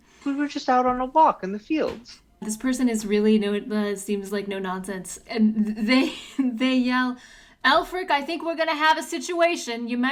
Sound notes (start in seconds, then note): none